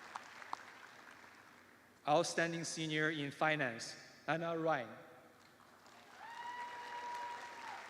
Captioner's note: cheers and applause